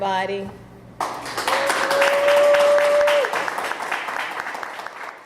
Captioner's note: audience applauding